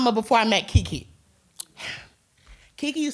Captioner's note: exhales